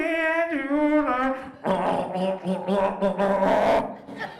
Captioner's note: gurgles